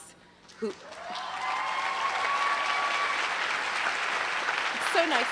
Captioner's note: applause